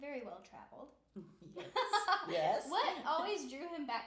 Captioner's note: laughing